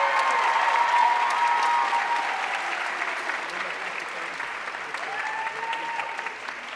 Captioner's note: audience cheering and applauding